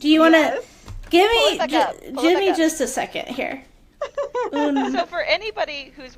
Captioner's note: laugher